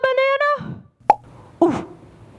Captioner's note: pop!